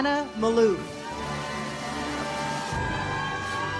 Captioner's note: audience cheers; uplifting music